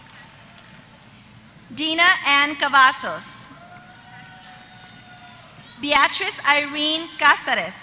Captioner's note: applause